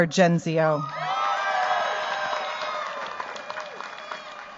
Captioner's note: cheers, applause